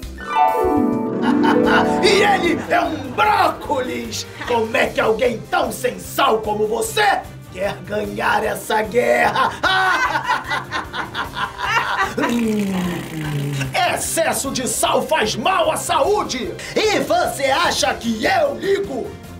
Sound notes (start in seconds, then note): 1.2 laughs; 9.2 both laughing; 12.1 blows raspberry